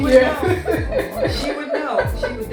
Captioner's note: laughs